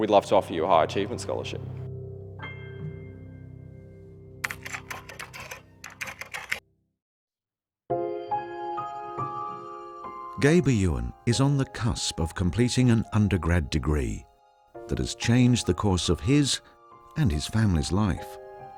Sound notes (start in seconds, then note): 5.8 computer keys clicking; 7.8 dramatic piano music; 10.2 voiceover